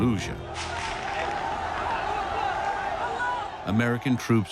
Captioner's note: crowd yelling